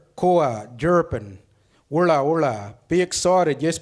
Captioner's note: speaks foreign language